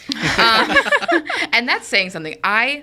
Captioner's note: all laughing